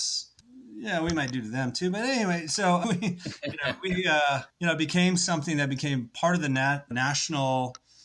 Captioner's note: laughs